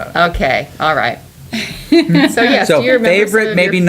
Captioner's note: laughter